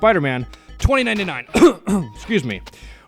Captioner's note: cough!!!